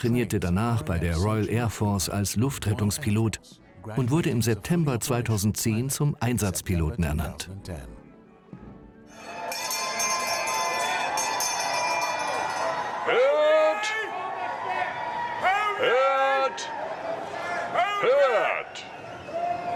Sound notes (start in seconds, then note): 9.1 bell ringing